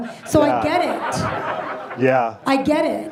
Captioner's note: audience laughs